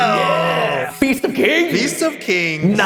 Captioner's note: echoing